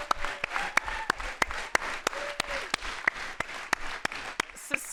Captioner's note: audience applauds